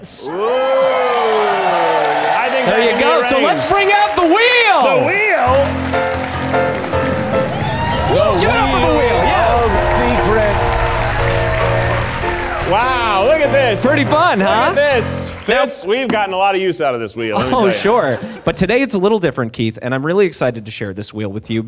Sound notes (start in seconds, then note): 6.8 audience applauding; 6.8 upbeat music